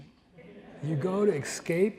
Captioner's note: audience laughs